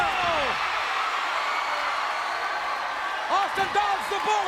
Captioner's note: audience cheers